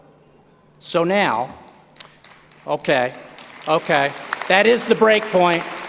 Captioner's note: applause